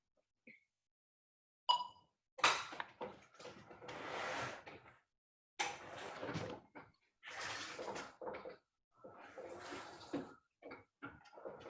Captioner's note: wheelchair moving